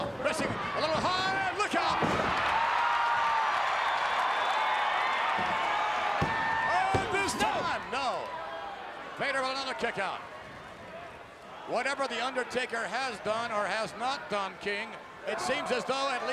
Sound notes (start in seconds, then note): 2.3 bodies slamming; 2.3 crowd cheering; 6.1 referee's hand thumping